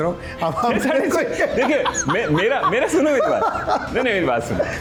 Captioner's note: laughter